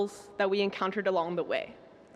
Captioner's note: none